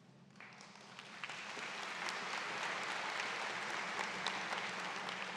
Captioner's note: audience claps